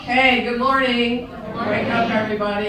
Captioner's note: in Unison